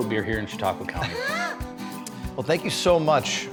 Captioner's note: laughing